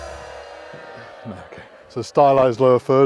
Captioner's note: ba Dum Tss Joke Drum sound; booing crowd noise